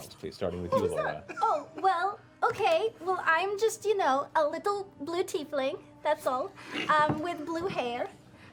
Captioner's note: Slavic accent